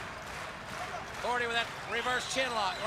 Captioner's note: crowd cheering